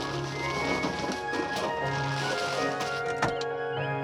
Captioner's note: none